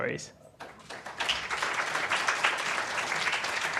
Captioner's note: applause